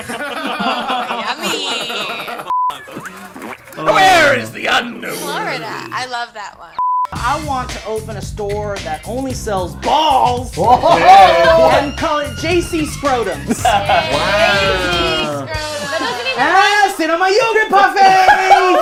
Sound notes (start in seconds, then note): 0.0 group laughs; 13.2 group laughs; 17.8 group laughs